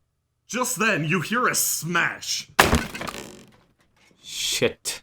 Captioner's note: crash